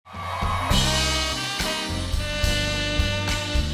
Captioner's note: cheers and applause